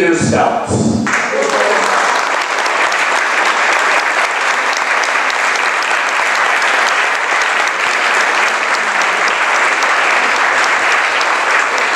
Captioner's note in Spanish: applause